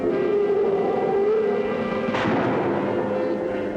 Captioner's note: gunshot